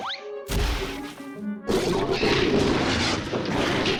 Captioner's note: growling, clattering